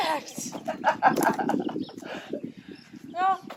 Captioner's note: more Laughing